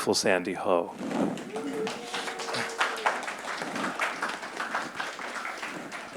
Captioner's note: audience applauding and cheering